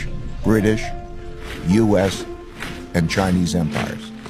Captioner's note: صفير الريح